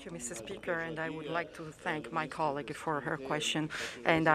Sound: speaking French

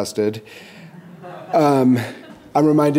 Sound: audience laughing

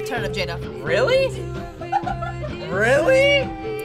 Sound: React laughs

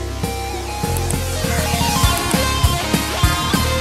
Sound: mouse clicking

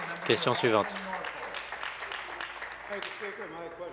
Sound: applause

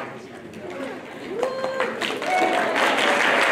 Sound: applause; cheering

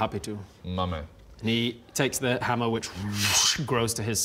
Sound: whoosch

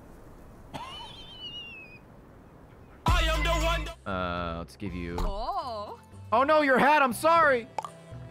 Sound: laughs

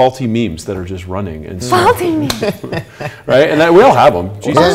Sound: laughing

